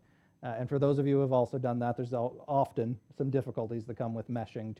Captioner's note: none